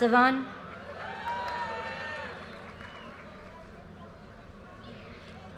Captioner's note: audience cheers and applause